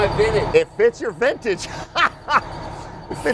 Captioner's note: laughs